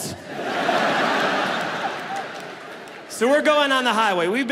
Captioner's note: audience laughs